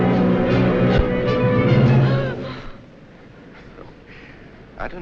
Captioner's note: Christine gasps